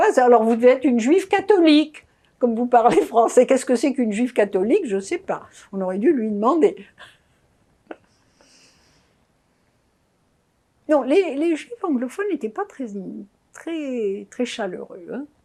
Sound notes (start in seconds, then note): 7.8 laughing